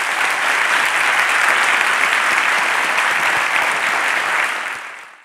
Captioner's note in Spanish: Aplausos